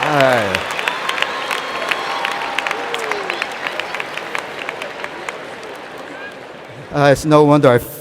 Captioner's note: applause